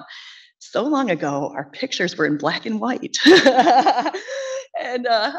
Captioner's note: laughs